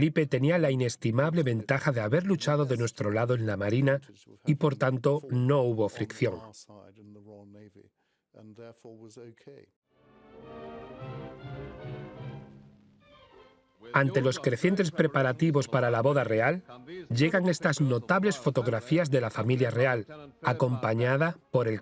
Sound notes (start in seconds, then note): 10.0 dramatic music; 13.3 voiceover